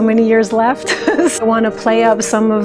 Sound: giggles

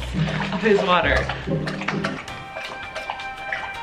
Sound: water lapping; soft rhythmic music

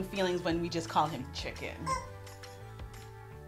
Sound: squeak

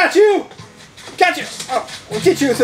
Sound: net whacks

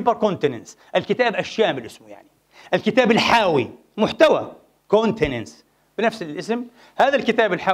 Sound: in Arabic

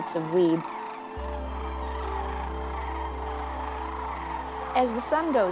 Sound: crane song

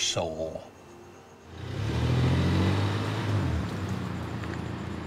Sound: car engine growling

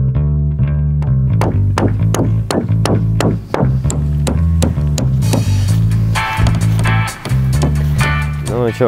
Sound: construction sounds

